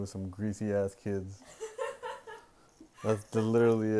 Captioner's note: woman laughs